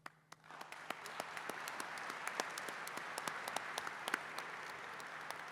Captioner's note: applause